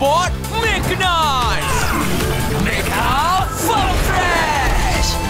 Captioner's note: none